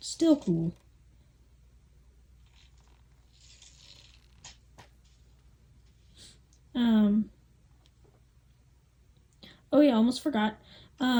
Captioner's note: long pause